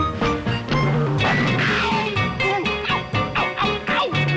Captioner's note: hoof clomps